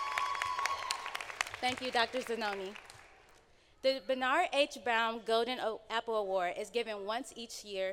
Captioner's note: applause